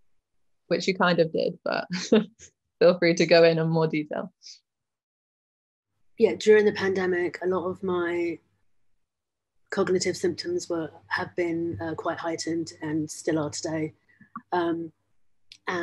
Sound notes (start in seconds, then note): 1.8 chuckles